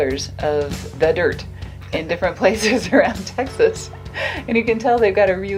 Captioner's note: laughs